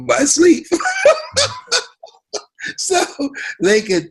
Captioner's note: Les laughs